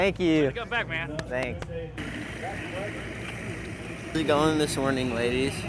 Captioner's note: motor running